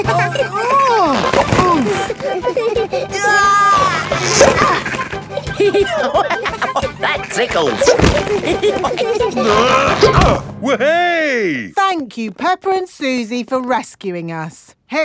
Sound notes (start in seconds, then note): 0.0 grunting; 0.2 giggling; 5.8 laughing; 8.5 all giggling; 9.0 grunting